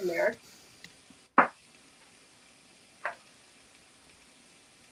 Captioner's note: simmering